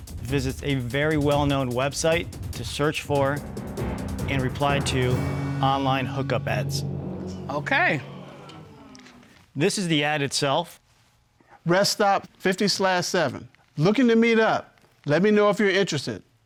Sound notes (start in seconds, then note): 6.6 audience gasping